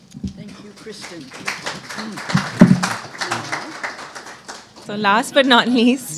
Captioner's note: applause